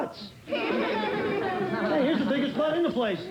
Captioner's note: giggling